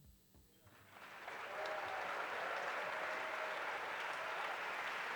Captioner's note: applause